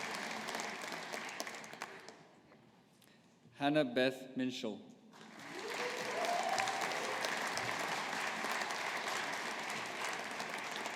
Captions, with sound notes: Hannah Beth Minshull. (AUDIENCE APPLAUDING)